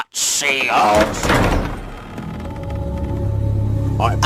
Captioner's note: door opens